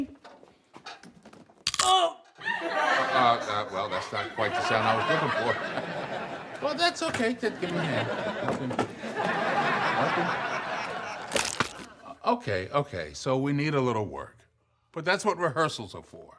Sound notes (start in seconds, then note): 0.1 audience laughs; 0.1 cracking noise; 9.9 audience laughing; 11.2 cracking noise